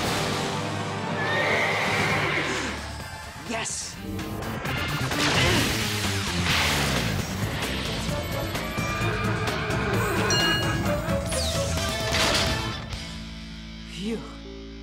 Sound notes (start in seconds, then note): 4.7 grunting; 8.9 neighing; 11.7 thudding